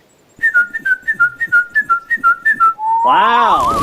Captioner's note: Dickon whistling